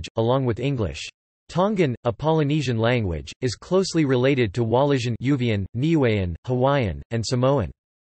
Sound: Uvean

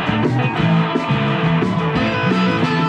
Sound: audience cheers

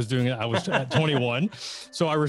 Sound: both laughing

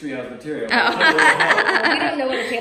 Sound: laughs

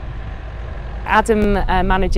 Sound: vehicle whirring

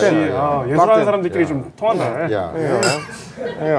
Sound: in Korean

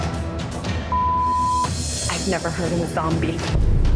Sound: beep

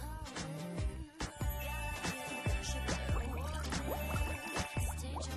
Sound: tinkling, bubbling

